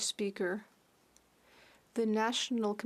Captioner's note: speaking French